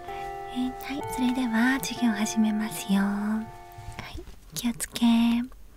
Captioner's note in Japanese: チャイムの音